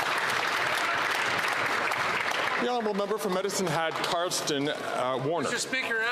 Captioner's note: some Applause